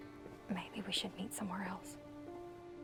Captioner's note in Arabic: يهمس